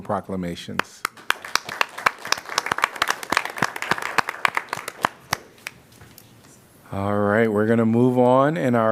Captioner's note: applause